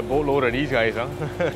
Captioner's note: laughing